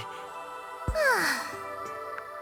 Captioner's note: sigh